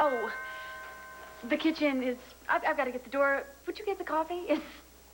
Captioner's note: doorbell rings